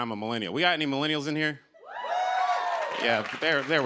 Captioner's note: cheers and applause